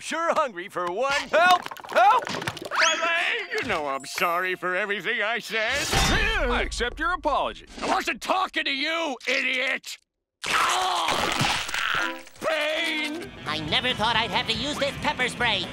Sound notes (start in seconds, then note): 10.1 groaning